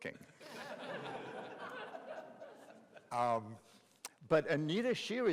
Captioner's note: audience laughing